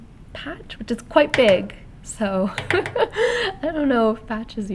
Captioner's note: laughter